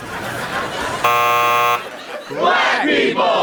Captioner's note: audience laughs; buzzer blares